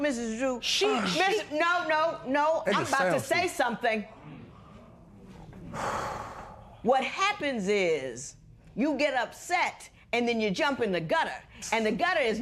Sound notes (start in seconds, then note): 5.6 exhales